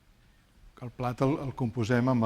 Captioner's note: speaking spanish